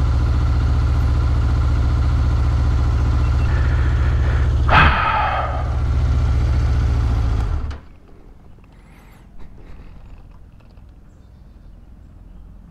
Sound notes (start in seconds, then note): 3.4 heavy sigh